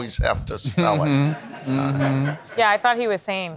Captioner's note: attendees laughing